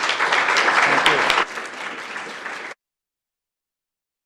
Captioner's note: applause